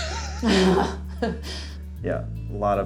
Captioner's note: laugh